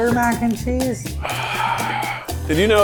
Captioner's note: sighs